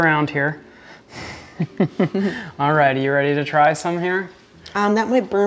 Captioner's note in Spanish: La risa